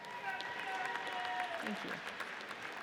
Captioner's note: audience cheers